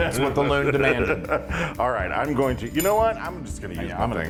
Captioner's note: laugh